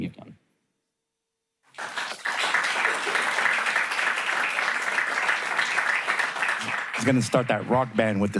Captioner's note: applause